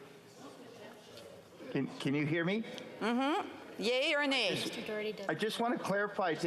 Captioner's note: speaking French